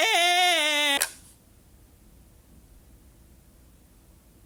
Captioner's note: button clicking